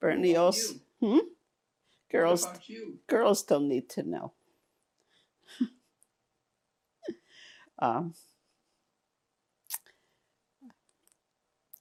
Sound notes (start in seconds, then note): 5.1 laughing